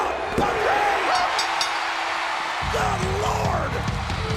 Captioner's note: audience cheering; bell rings